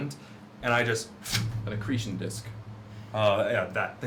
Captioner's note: disk zips through the air